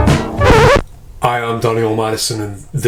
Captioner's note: record scratch